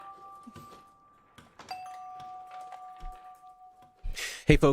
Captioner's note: bell Ringing